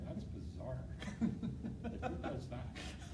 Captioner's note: laughing